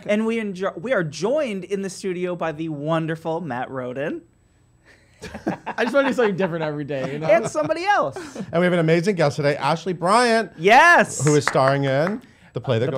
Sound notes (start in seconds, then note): 5.4 laughing; 11.2 clapping